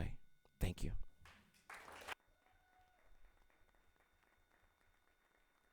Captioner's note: audience clapping